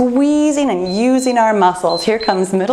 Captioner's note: timer beeps